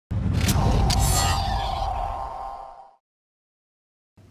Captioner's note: loud swoosh